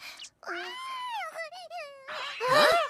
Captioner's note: Komasaburo coos